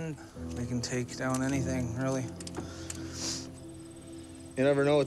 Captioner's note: sniffles